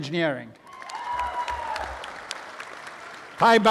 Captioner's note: applause